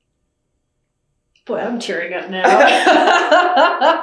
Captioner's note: laughter